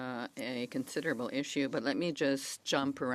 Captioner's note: speaking French